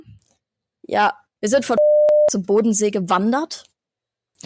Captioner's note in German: piep